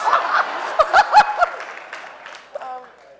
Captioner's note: laughing